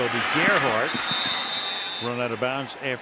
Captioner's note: whistle blows